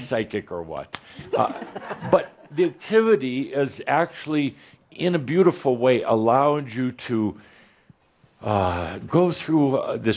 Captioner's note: a few chuckles